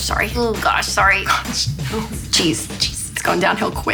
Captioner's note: laughs